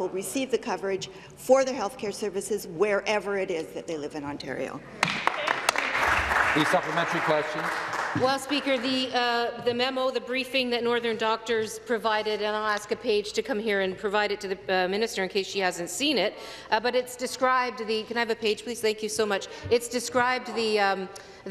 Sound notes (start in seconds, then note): 8.7 applause